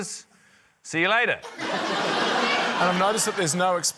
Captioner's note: laughter